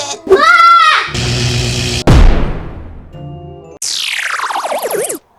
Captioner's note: screams; electric zap